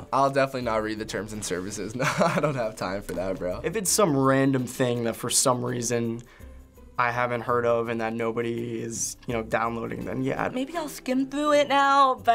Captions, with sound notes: - I'll definitely not read the terms and services. (chuckles) I don't have time for that, bro. - If it's some random thing that, for some reason, I haven't heard of and that nobody is downloading, then yeah. - Maybe I'll skim through it now,